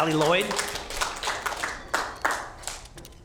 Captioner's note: applause